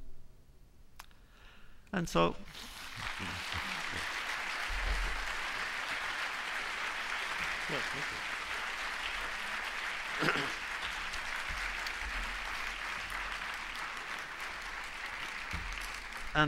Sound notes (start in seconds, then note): 2.4 applause